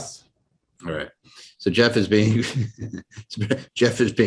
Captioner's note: laughs